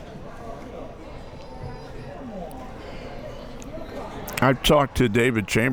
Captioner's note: crowd members talking